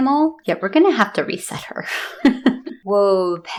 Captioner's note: laugh